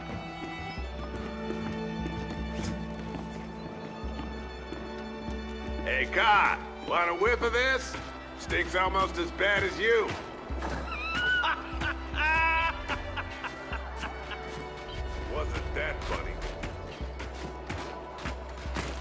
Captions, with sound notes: Hey, car. A lot of whippa this? Sticks almost as bad as you. [Laughing] Wasn't that funny.